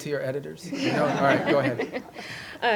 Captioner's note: laughter